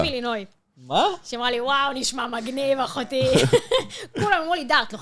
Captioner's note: laugh